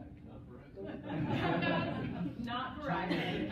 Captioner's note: laughter